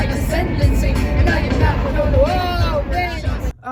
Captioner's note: wind shakes car